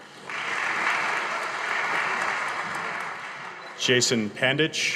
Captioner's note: audience applauding